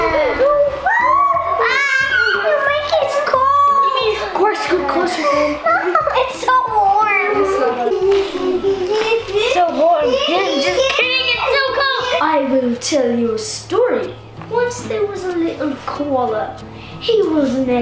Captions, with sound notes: (screeching) The blanket's cold. It's so warm. - It's so warm, I'm just kidding it's so cold. I will tell you a story. Once there was a little koala, he was an adventurer.